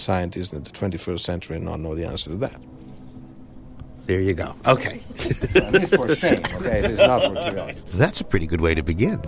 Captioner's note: laughs